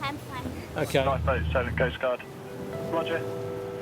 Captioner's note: voice On Radio